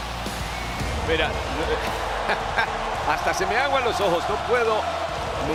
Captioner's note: laugh